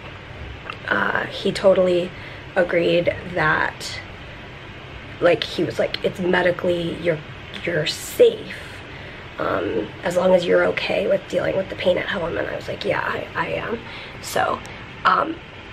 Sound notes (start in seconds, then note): none